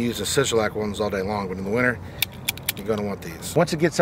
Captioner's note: clippers clicking